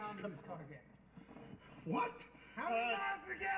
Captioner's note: yelling